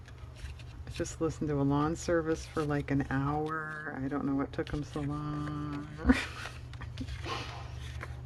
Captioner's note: laughs